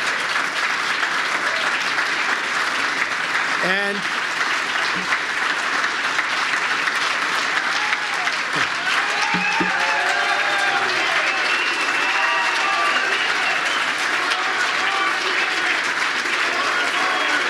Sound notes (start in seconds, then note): 9.6 applause